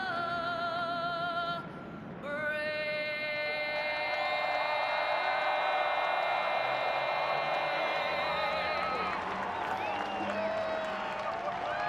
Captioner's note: cheers & applause